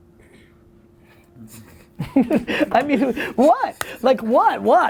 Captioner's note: laughs